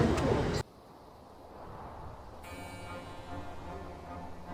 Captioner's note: wind; classical music